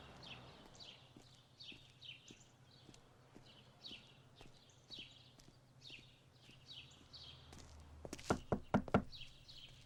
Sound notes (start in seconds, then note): 8.3 door knock